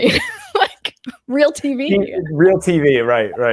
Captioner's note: chuckles